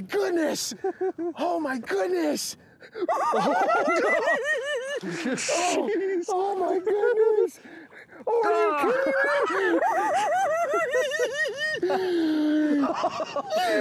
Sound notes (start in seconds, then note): 0.6 laughing; 3.2 laughing; 10.3 both laughing